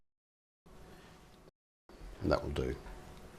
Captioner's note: silence